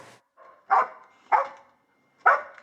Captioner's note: dog barks